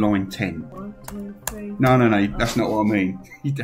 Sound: enter key clacking

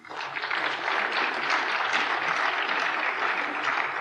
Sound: applause

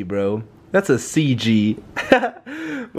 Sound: laughs

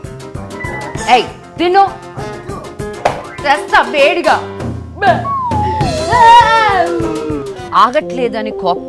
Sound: sobs

